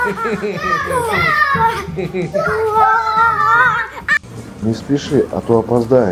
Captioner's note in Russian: смех